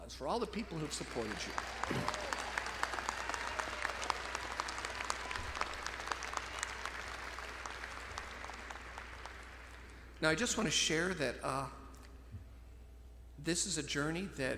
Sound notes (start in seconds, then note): 2.0 audience cheering; 2.0 audience clapping